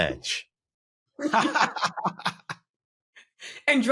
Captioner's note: laughter